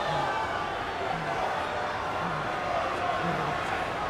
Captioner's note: crowd chattering